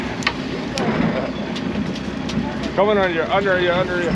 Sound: reel cranking

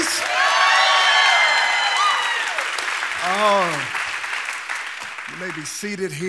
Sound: congregation cheering; congregation applauding

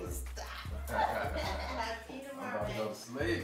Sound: all laugh

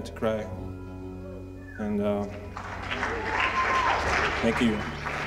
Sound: applause

